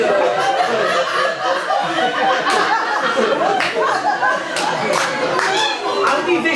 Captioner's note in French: rires public